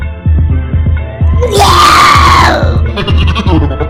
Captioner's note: puking